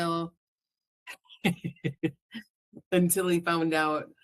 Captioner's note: chuckles